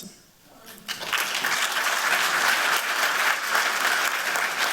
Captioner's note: applause